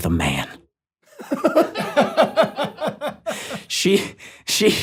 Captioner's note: laughs